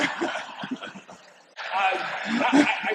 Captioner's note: laughter